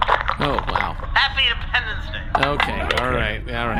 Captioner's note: slurring